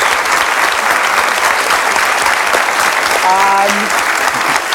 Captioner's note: audience applauds